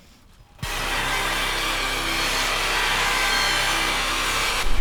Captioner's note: sudden discordant static noise